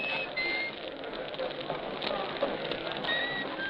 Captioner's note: none